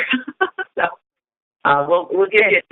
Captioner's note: chuckle